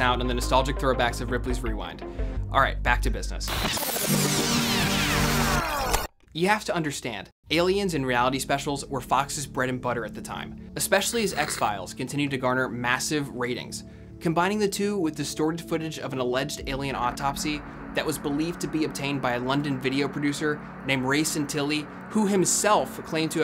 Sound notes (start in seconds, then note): 4.1 film rewinding